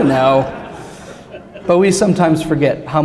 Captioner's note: laughter